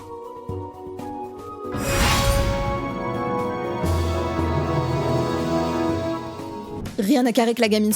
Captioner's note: sound of the game